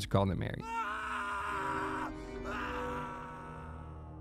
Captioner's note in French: cri d’horreur